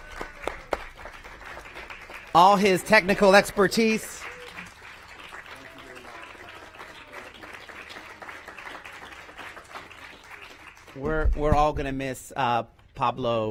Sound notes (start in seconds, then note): 6.4 applause